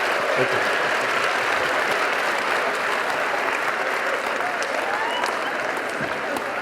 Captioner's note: audience laughing and applauding